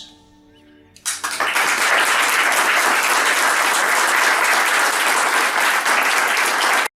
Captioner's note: applause